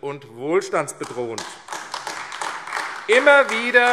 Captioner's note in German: Beifall AfD